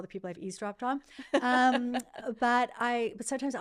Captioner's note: laughing